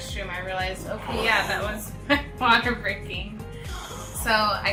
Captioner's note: laughs